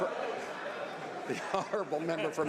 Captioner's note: some Applause